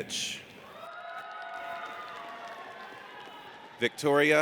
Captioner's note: audience cheers